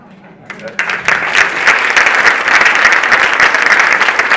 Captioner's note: audience applauding